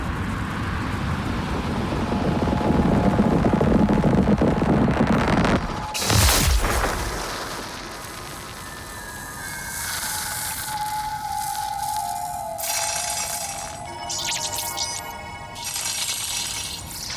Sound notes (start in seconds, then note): 1.9 wind blowing